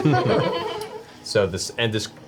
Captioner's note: all laugh